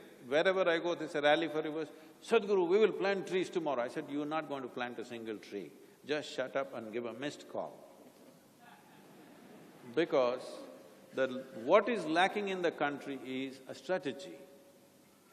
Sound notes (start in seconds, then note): 9.1 laughter